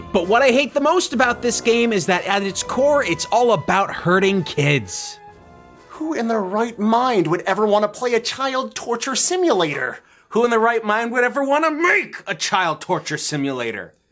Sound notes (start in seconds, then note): none